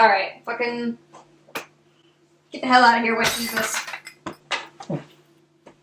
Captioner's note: glass shattering